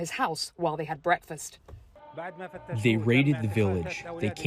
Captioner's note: through translator